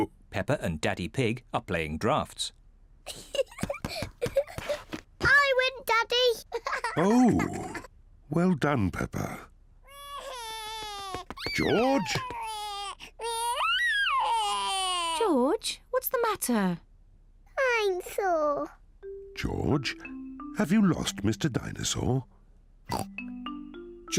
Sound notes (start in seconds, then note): 9.9 bawls